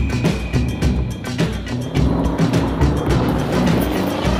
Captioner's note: engine revving; tires screech